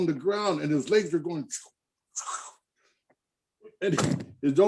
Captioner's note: makes whoosh sounds